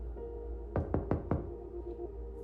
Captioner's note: knocking